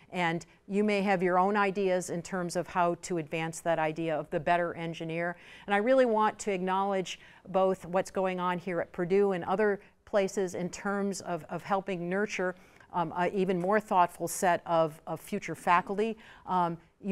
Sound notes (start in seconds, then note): none